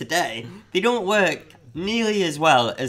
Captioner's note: none